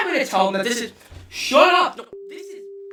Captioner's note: double voice